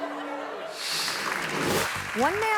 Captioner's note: audience laughing; audience clapping